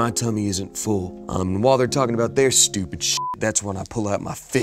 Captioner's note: beep